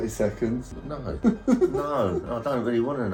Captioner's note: laughing